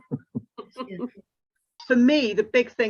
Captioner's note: chuckles